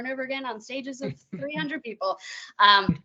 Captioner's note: chuckling